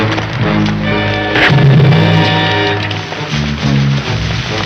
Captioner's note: thudding